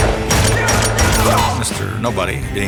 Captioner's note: men grunting